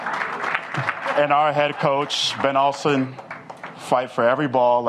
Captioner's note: applause